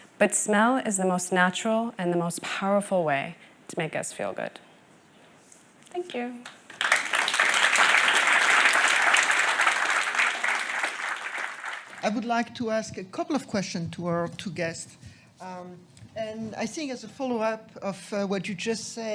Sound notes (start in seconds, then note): 6.4 applause